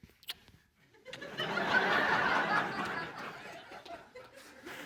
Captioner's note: laughter